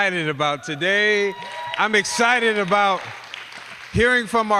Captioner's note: applause